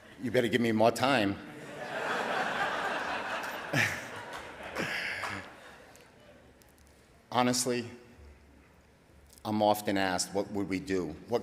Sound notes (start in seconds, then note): 1.5 audience laughing; 4.3 laughing